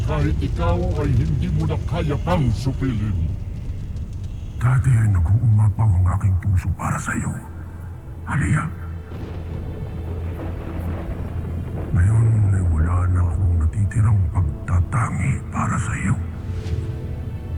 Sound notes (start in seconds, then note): 9.2 pensive music playing; 9.2 thunder rumbling